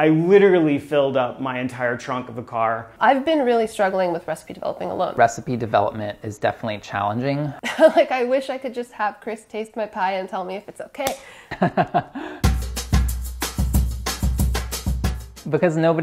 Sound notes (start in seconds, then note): 7.6 laughs; 11.5 laughing; 12.4 upbeat music